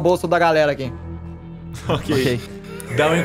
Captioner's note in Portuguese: risos